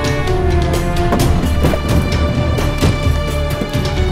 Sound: car door opens

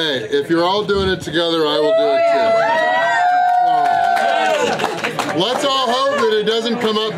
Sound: cheering

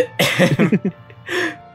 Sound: chuckles

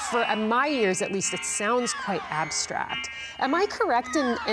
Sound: tech beeping

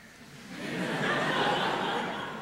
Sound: laughter

